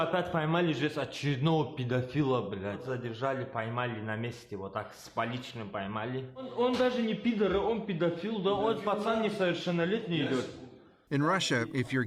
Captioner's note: speaking russian